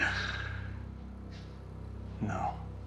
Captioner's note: Dodds laughing